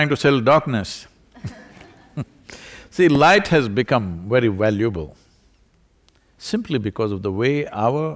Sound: laughter

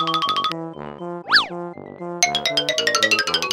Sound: swish; xylophone

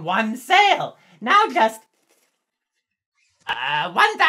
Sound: counting

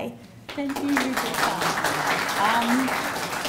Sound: audience applauding

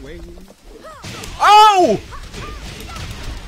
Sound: scream

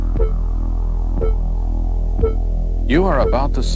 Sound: electronic beeping

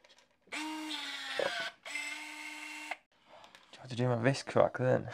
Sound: crimping tool whirs

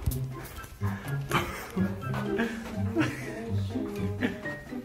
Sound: laughs

